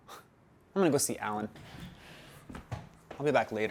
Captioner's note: scoffs